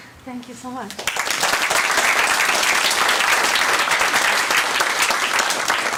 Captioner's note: audience applauds